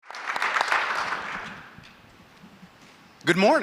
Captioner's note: audience applauding